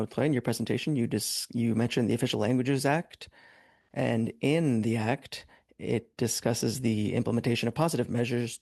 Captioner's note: speaking French